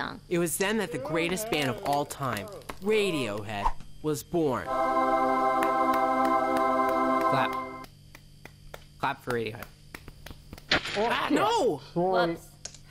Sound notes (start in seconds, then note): 4.6 angelic singing; 5.5 clapping; 10.3 model shatters